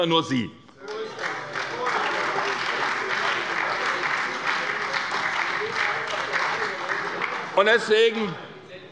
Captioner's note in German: Beifall bei der SPD